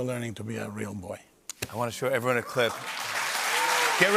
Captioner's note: cheers and applause